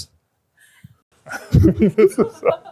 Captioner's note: laughter